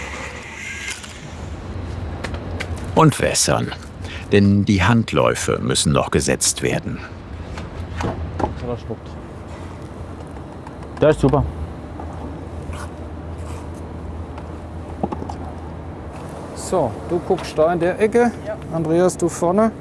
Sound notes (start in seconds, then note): 8.8 quiet utterance